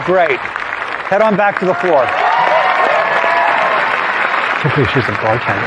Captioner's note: cheering and applause